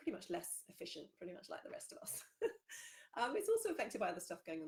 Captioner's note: laughs